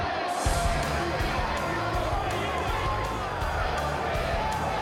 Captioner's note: crowd chattering